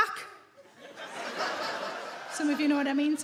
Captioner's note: audience laughing